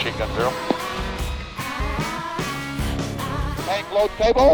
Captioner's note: dramatic music continues; singers hum